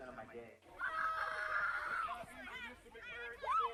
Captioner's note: kids yelling